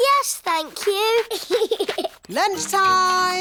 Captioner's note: giggles